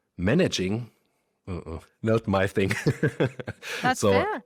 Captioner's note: laughs